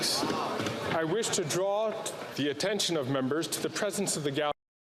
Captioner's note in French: voix de l'interprète